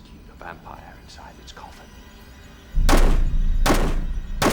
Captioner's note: gun shots